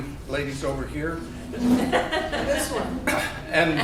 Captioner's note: people laughing